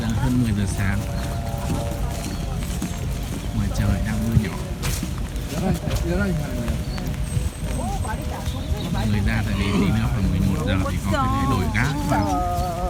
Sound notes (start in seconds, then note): 5.8 voice of visitors